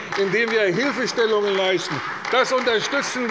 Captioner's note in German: Beifall bei der CDU